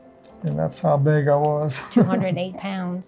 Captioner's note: chuckles